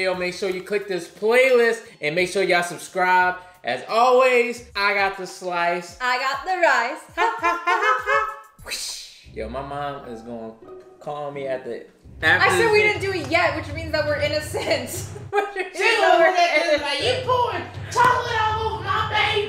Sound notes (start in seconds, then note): 8.4 mimics whooshing; 15.9 laughs; 19.2 laughs